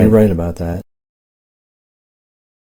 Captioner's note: silence